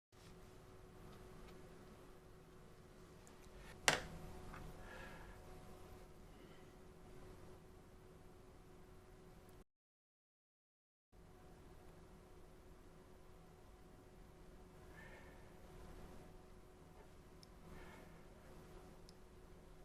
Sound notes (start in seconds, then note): 6.9 silence